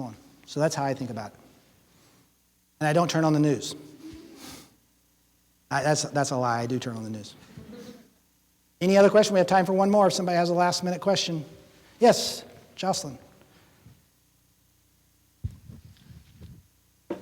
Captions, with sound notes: So, that's how I think about it. And I don't turn on the news [chuckles] That's a lie, I do turn on the news. [laughing] Any other questions? We have time for one more. If somebody has a last minute question... Yes! Jocelyn?